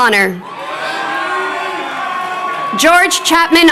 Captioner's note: crowd cheering